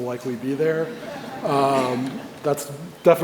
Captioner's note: audience chuckles